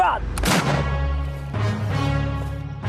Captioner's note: gunshot